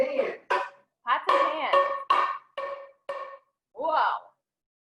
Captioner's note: pans clanging